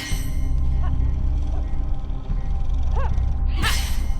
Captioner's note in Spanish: Gruñidos de Carolina en el fondo